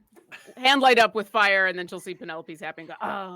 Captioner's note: grunts